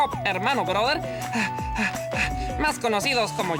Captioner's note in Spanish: Policarpo respira agitado